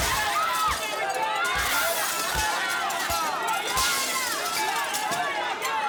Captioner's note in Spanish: Impacto de cristales